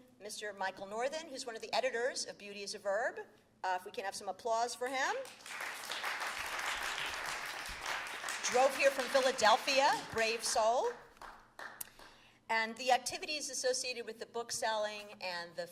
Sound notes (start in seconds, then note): 5.2 applause